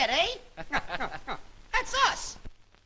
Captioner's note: cackling